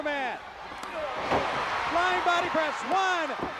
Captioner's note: crowd cheering